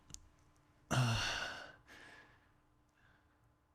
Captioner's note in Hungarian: sóhaj